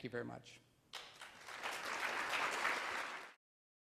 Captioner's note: applause